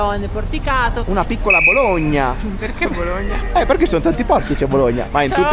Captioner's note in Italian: risate